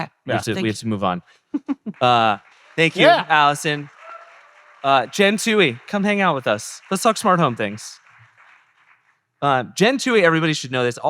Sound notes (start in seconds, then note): 2.5 audience cheering; 3.8 audience applauding